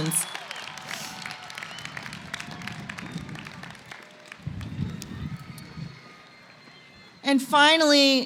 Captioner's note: applause